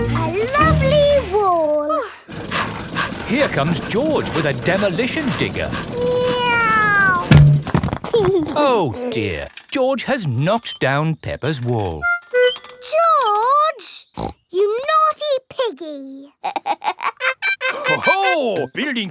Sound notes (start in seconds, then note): 2.0 daddy pig panting; 6.2 george imitates airplane; 8.4 george giggles; 14.1 snorts; 16.4 laughs